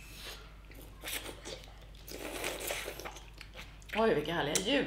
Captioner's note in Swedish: sörplande